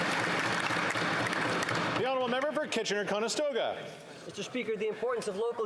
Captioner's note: applause